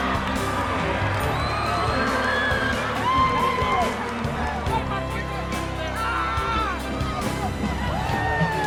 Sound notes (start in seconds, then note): 3.7 cheering